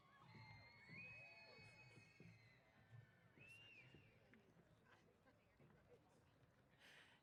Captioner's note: cheers